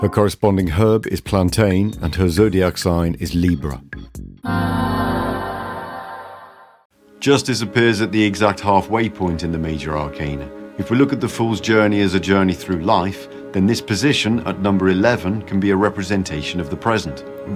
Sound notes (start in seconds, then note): 4.4 ahh sound